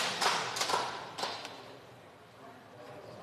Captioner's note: applause